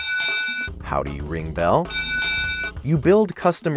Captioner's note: bell chiming; bell chiming